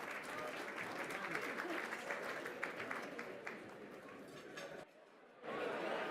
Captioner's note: applause